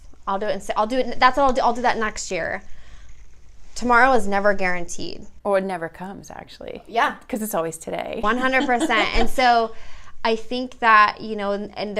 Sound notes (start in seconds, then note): 8.3 laughs